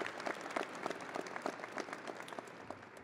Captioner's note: audience applauding and cheering